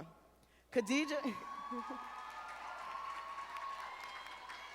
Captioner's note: audience applauding